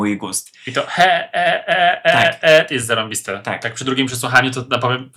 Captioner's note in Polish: śmiech